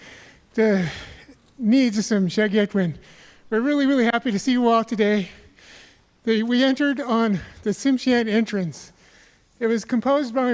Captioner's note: speaking native language